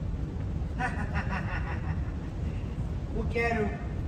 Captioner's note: fake laugh